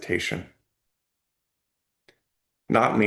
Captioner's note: pause